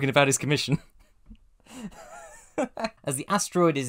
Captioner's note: laughing; wheezy chuckle